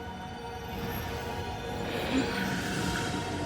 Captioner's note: inhales